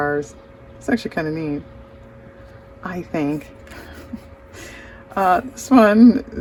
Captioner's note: laughs